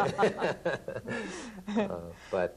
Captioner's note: laughter